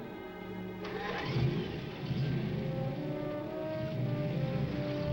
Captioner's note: engine revving